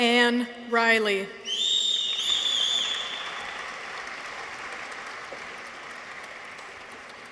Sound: people whistle; audience applauds

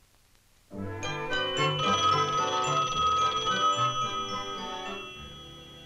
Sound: phone ringing

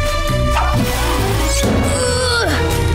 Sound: grunting

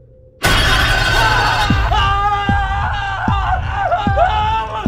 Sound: terrified screaming

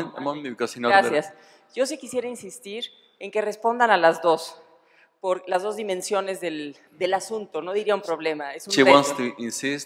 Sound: speaking spanish

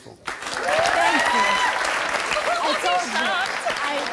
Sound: audience applauding

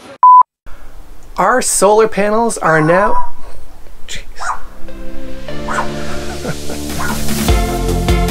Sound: dog barking

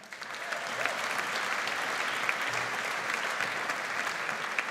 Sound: audience applauds

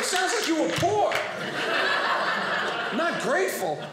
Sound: audience laughing

